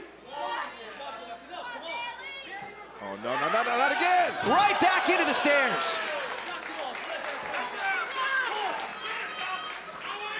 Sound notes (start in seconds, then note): 6.6 crowd chatter; 9.1 crowd cheering